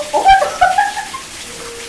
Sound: laughing

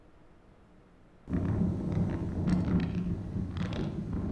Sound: thunder rumbling

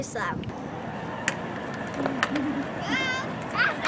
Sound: more toy car noises

